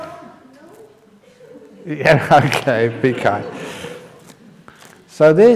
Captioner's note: laughter